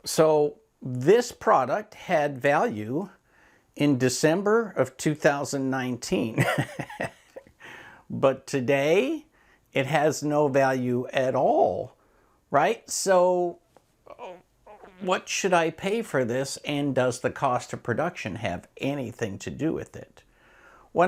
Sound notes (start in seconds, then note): 6.5 laughs